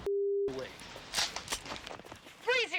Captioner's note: gun cocking